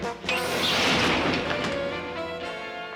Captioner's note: tense music; clanging; tense music